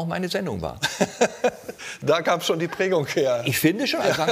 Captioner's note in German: lacht